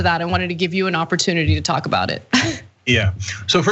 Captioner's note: laugh